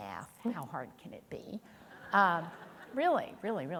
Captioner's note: audience chuckling